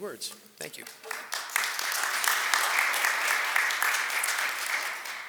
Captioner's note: audience applauds